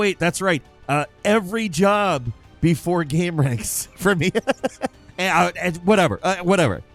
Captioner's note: laughs